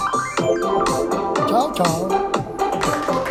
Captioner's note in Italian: Applauso